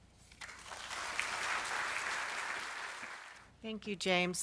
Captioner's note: audience claps